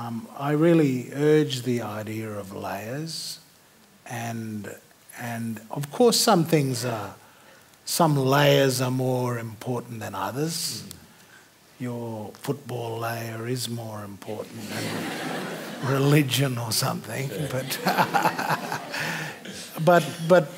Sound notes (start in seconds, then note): 17.3 laughter